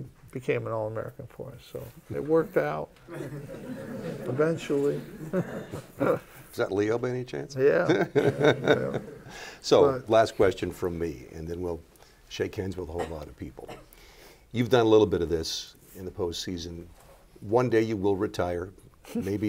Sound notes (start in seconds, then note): 3.1 laughter; 7.8 laughter